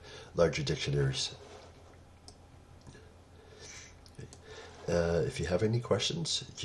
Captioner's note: pause